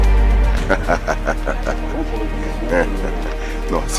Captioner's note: laugh